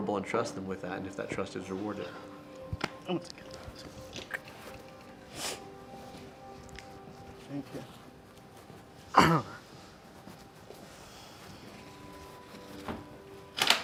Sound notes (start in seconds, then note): 5.3 man sniffles; 9.2 somber music